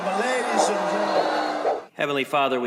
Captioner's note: booing